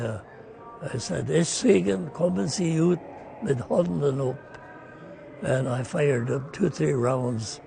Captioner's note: speaking German